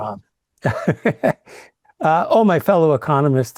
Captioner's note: laughs